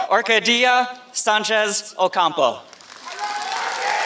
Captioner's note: applause